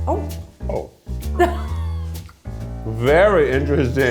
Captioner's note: chuckling